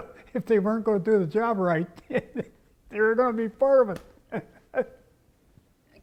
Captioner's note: laugh